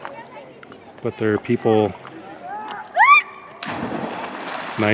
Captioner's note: female screams